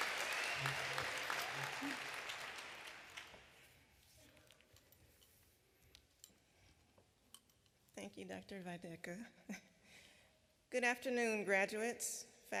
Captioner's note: applause